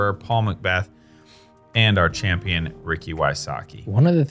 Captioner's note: none